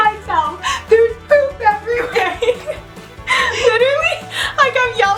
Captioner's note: laughing